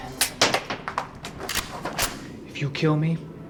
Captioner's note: gun clicks